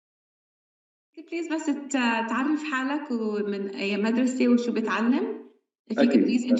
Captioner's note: speaking arabic